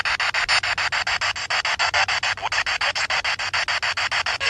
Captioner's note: spirit box sound